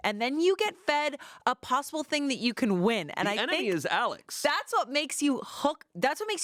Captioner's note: none